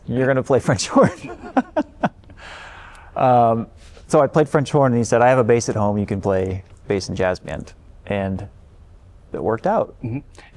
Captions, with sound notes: you're going to play French horn. [LAUGHTER] I played French horn and he said, I have a bass at home. You can play bass and jazz band and it worked out.